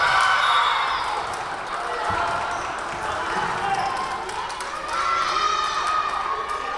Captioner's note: Lions cheering; whistle blowing